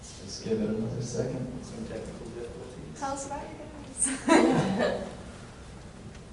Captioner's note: laughs